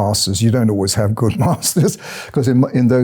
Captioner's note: chuckling